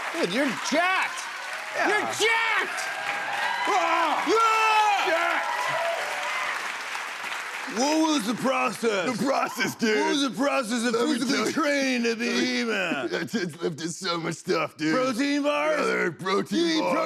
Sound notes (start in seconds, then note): 5.5 cheers and applause continue; 7.6 deep voice